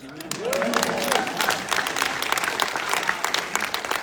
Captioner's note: audience applauding